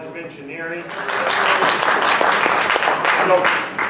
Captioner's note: clapping